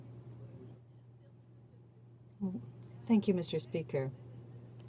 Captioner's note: speaking French